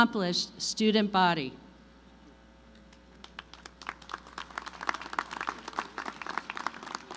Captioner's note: applause